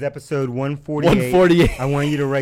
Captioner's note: laughs